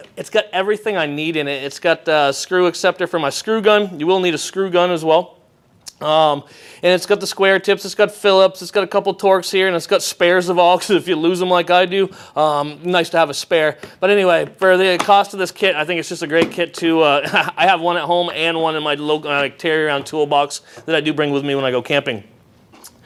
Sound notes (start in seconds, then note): 17.2 laughs